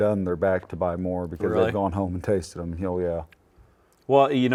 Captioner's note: none